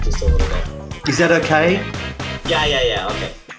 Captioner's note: sarcastic tone